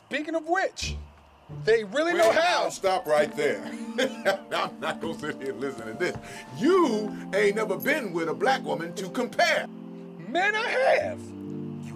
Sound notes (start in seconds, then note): 3.4 laughing